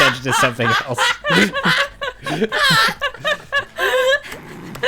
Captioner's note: laughing